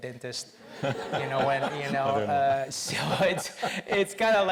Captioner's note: audience laughs